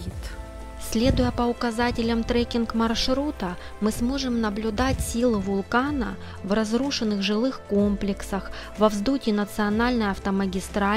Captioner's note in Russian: закадровый голос